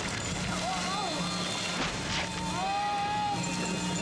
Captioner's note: yelling